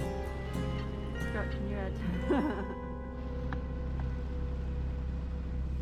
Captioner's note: laugh